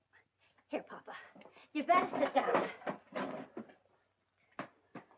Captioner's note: chair clattering